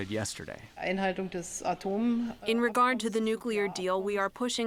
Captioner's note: through translator